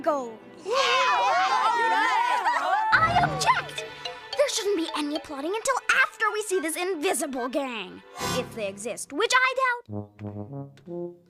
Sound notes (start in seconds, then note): 0.6 cheering